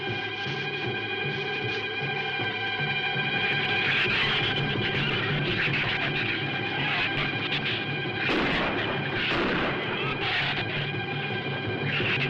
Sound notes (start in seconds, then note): 8.2 gunshots